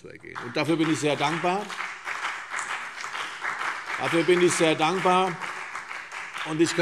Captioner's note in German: Beifall CDU und BÜNDNIS 90/DIE GRÜNEN